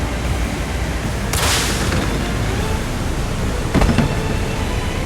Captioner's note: rumble rumble